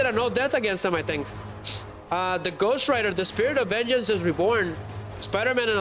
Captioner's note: snorts